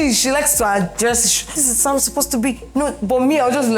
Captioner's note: imitates sister